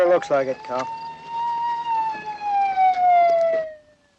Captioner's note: siren wailing